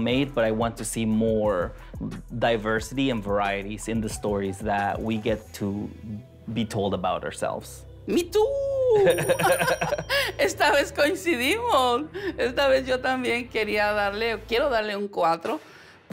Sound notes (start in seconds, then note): 8.9 laughter